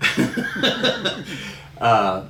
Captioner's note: laughing